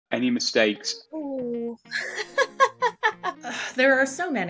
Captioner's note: laughter